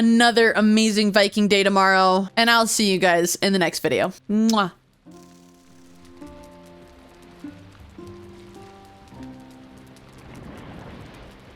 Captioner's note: kiss